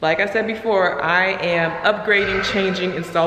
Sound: exclaiming

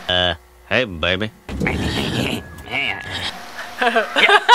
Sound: laughing; imitating laugh

